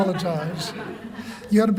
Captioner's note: laughter